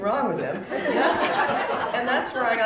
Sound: laughter

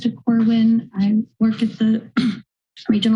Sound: clears throat

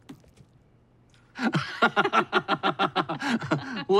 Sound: both laugh

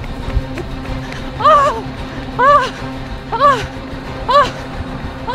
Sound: moans

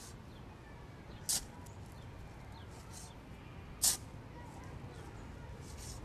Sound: digging

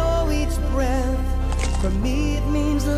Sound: gourd cracked

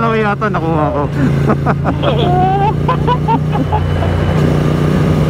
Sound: group laughing

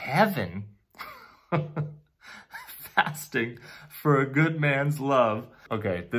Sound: laughing

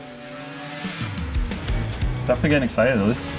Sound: sled engine revving

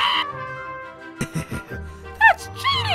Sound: laughs

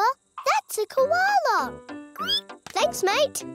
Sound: squeals

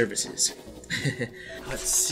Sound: Marvin laughs nervously

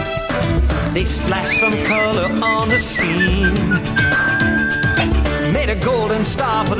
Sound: whistling

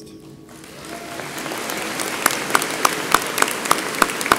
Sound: audience applauds

